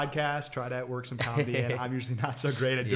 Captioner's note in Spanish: se ríe